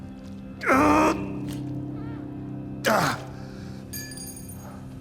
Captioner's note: Tommy grunts